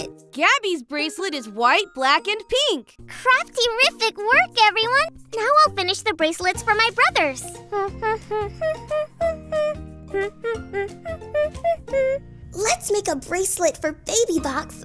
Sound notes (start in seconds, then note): 7.6 humming